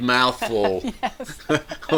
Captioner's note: chuckles